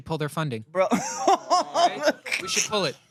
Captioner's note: laughs